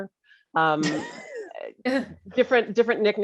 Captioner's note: laughs